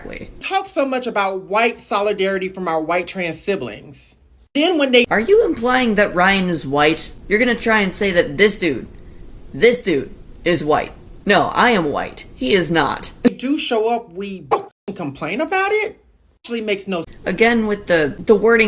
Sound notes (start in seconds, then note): 14.5 bark